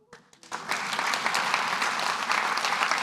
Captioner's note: applause